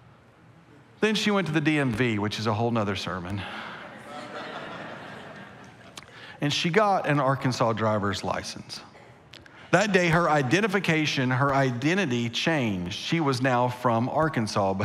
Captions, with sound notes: Then she went to the DMV, which is a whole nother sermon. (congregation laughing) And she got an Arkansas driver's license. That day, her identification, her identity changed. She was now from Arkansas,